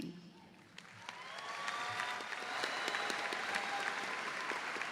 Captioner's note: audience applauds